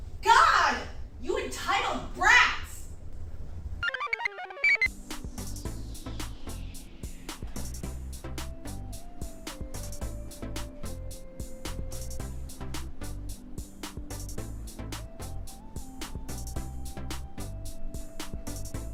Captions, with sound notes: God, you entitled brats! (computer chirps) (blissful music)